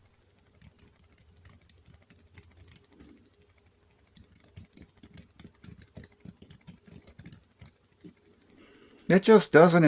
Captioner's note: ratchet sounds